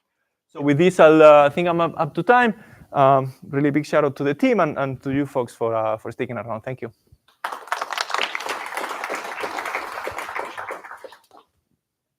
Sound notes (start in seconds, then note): 7.3 applause